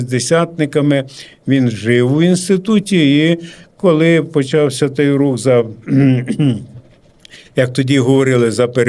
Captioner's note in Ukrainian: прочищення горла